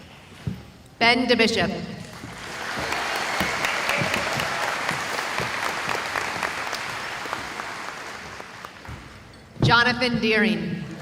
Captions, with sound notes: Ben DeBishop [applause] Jonathan Dearing